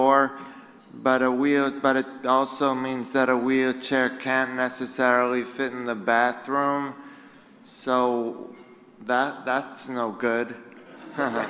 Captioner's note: laughter